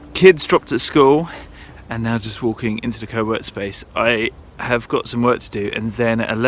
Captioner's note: none